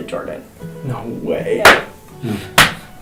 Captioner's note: loud clap, loud clap